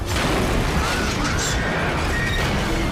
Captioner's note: screaming